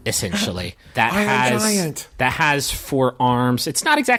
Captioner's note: Magnus gasps